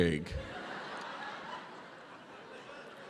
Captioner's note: laughter